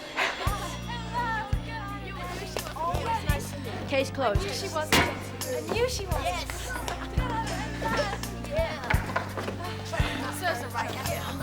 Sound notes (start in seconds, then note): 0.1 light music; 7.4 crowd chattering